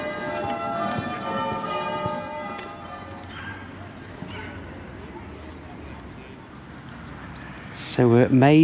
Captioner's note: church bells